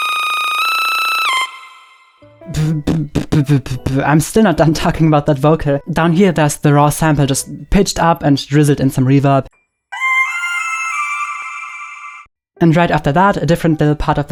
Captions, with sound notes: pbbpt pbpbp pbpfp ppbb pbbb I'm still not done talking about that vocal. Down here there's the raw sample just pitched up and drizzled in some reverb. (spooky sounding voice sample) And right after that a different little part